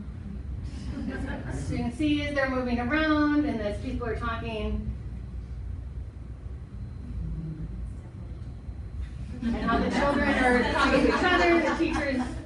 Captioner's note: audience laughing